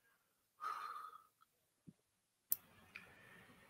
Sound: sighs

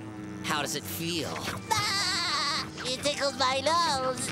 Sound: laughing

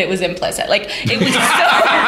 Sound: laughter

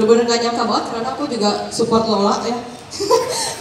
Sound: ahhaha

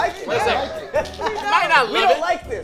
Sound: group laughs

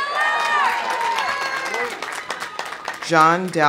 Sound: audience cheering; audience applauding

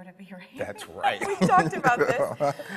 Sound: laughs

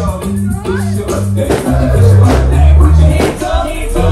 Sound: firecrackers pop

